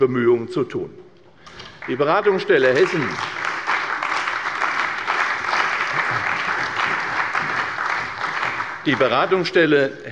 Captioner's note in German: Beifall bei der CDU und dem BÜNDNIS 90/DIE GRÜNEN